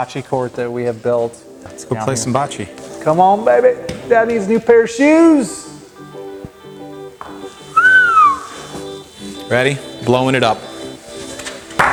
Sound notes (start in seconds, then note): 7.3 whistles